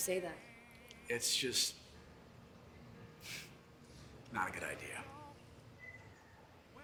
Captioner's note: exhales sharply